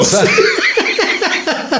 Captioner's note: laughing